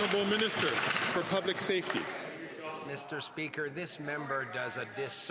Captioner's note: some Applause